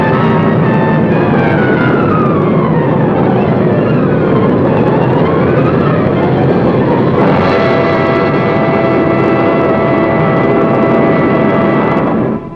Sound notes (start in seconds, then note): 0.9 plane engine roaring; 0.9 suspenseful music